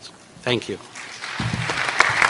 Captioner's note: applause